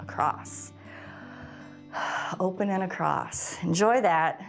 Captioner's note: exhales